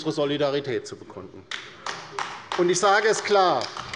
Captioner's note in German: Beifall bei der LINKEN